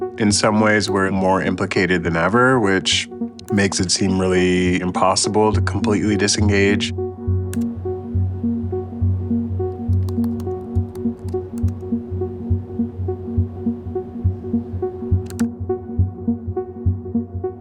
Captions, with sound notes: In some ways, we're more implicated than ever, which makes it seem really impossible to completely disengage. (keyboard keys clicking)